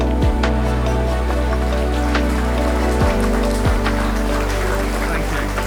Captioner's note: upbeat music; audience applauding